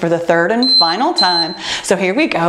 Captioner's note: timer beeping